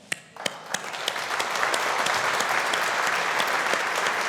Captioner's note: audience applauding